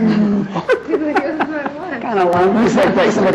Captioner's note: laughter